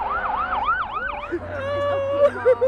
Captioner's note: sirens wailing; woman crying